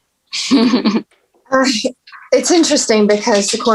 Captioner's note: chuckling